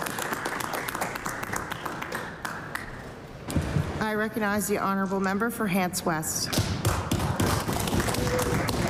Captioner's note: applause